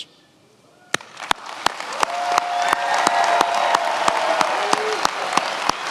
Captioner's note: attendees applauding and cheering